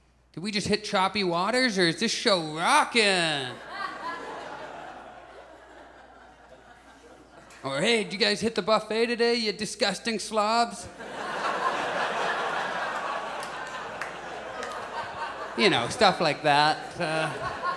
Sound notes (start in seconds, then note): 3.5 audience chuckles; 10.8 audience laughs